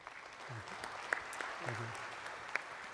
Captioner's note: audience applauding